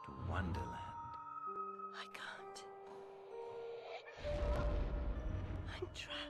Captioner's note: Alice whisper